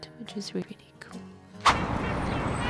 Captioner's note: woosh